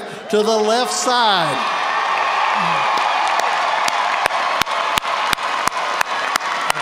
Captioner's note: audience cheers and applauds